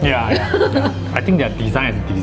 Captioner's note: laughs